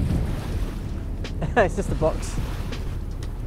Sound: laughs

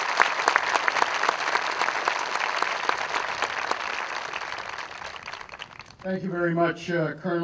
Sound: aplause

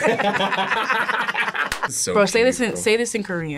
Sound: both laugh

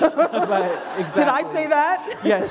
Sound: laughter

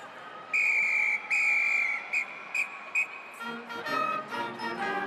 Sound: whistle shrieks; people chattering

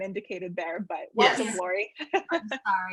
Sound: laughs

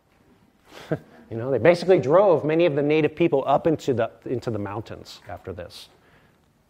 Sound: laughs

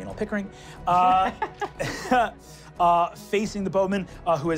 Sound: laughing

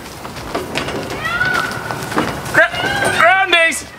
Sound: yelling

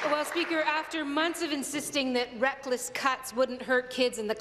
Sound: applause

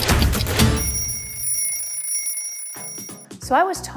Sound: alarm rings

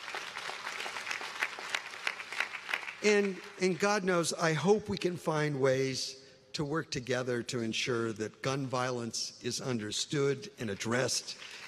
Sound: applause

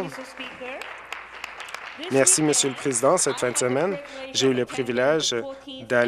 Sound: some Applause

